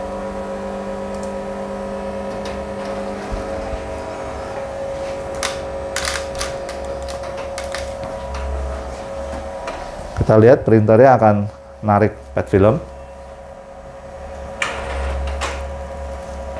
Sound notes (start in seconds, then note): 1.1 clicking sound; 2.1 printer machine noise; 4.9 tripod noise; 8.6 printer machine noise; 13.6 printer machine noise